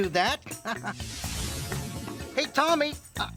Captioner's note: chuckling; whooshing sound